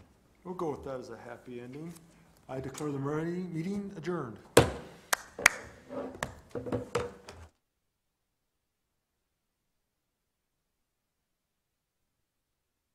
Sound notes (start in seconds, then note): 4.6 thud; 5.1 clapping